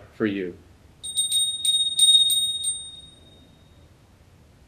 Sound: bell sounding

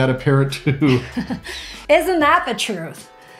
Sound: laughing

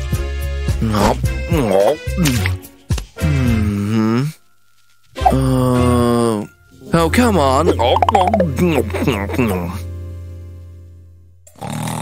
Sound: snoring

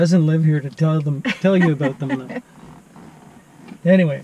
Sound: laughing

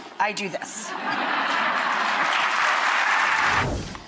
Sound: audience cheering

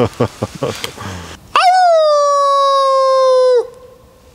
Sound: howling

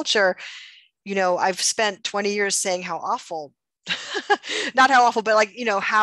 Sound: laughs

